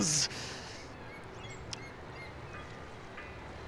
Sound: gulls cawing in distance

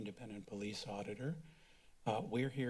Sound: silence

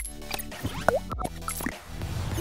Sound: soft adventurous music; popping bubbles

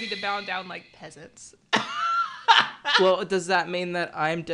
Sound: laughing

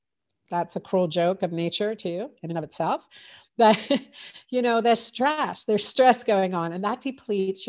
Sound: laughs

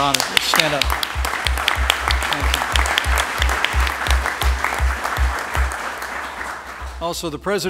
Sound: applause

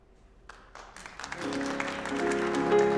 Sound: applause

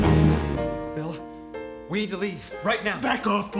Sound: speaking

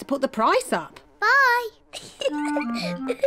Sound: giggles

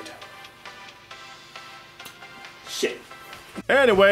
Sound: snaps his fingers in frustrations

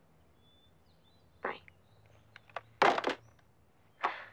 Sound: phone thuds; sighs

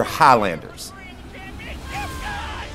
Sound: crowd cheering

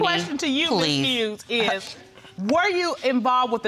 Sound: scoffs

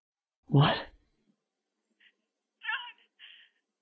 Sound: crying

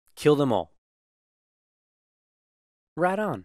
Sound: silence

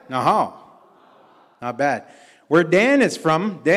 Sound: audience responds

